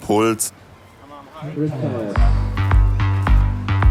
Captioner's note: loudspeaker announcement; dynamic music